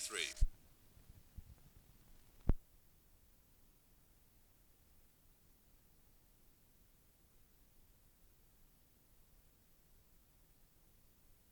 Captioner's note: no audio